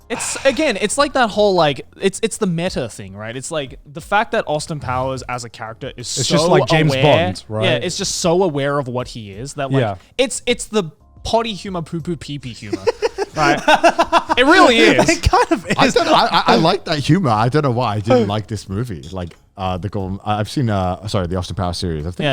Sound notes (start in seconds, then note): 12.7 everyone laughs